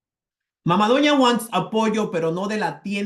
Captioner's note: speaking spanish